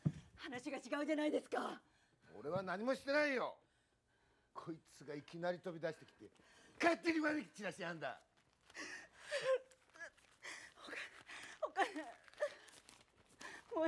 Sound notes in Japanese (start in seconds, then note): 8.6 すすり泣き